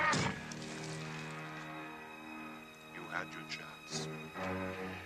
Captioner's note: spear thuds